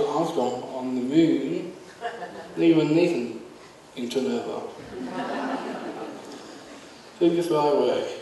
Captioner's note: audience laughs